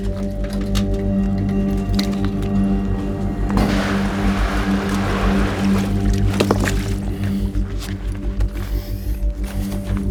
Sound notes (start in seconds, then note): 0.2 suspenseful music continues; 6.1 water splashing